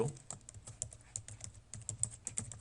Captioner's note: typing